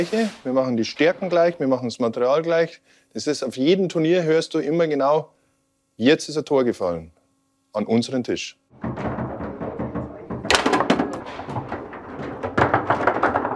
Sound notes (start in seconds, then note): 8.8 dull noises; 12.1 rolling noises